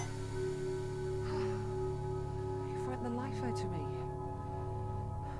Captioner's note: sighs